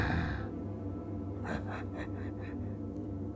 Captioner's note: laughter